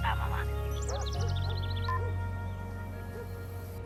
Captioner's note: phone beeps off, dog barks